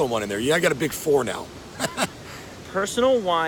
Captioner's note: laughs